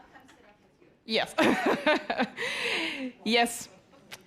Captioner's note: laughs